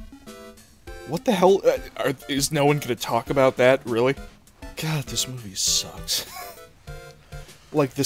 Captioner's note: wheeze